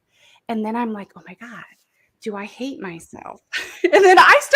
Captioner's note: laughs